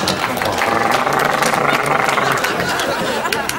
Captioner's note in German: Imitiert Rasierer